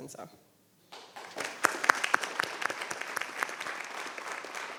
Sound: applause

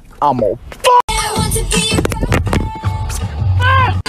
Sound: phone falls over

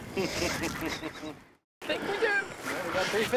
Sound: laughing

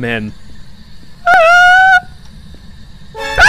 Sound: small scared noise

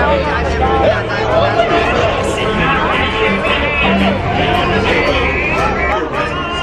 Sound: people murmuring excitedly

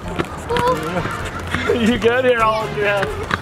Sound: laughs nervously

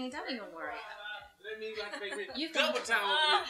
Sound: distant chatter, laughter

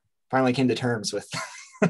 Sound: chuckles

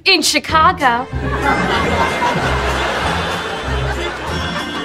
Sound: people laugh

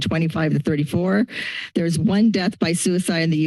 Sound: inhales

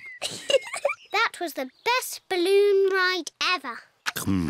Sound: giggles

